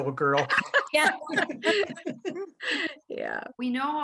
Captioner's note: laughter